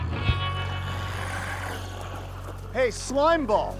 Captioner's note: glowzies growling